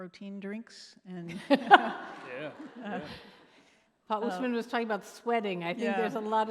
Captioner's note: laughing